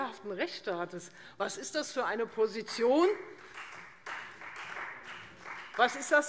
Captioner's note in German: Beifall Freie Demokraten und vereinzelt SPD